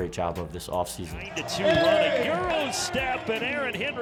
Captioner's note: overlapping chatter